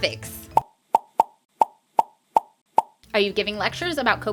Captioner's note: pop! Pop! Pop! Pop! Pop! Pop! Pop!